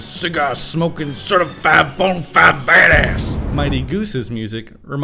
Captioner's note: boom